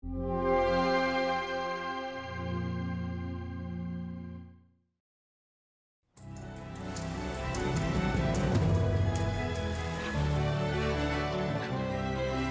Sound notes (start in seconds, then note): 0.2 dark music; 6.3 bright exciting music; 6.8 waves crashing